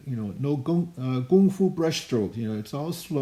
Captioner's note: speaking in Chinese language